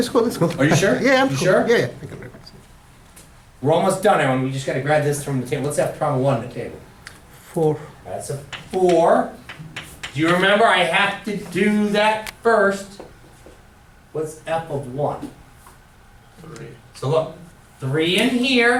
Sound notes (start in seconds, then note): 0.2 voiceover; 7.9 voiceover